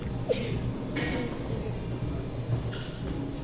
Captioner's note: laughs